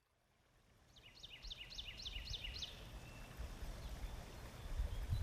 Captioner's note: birds chirping